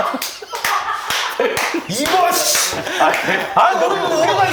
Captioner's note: giggling